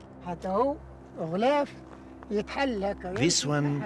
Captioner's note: speaking in foreign language